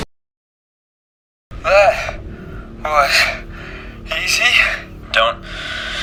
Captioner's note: out of breath; gasping for air